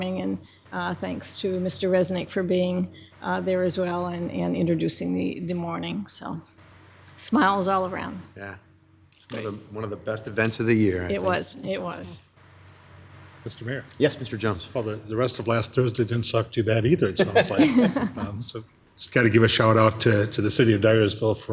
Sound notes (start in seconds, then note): 17.0 laughing